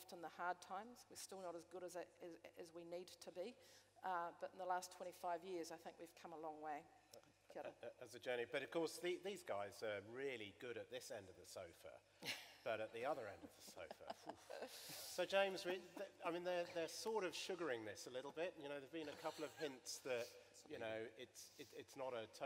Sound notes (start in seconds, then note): 15.6 laughter